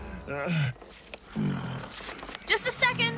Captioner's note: distressed grunts